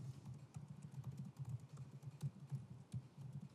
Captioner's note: typing sound